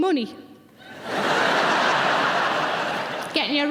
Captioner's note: audience laughing